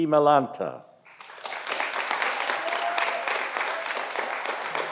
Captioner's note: audience applauding